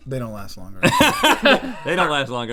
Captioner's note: laughing